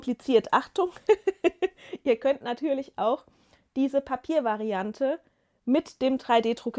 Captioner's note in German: gelächter